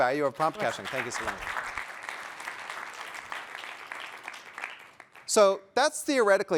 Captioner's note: applause